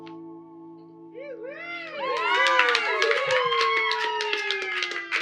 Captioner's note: cheering